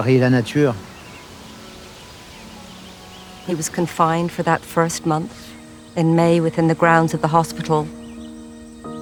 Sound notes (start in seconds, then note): 0.0 speaking in foreign language continues; 1.1 wind rustling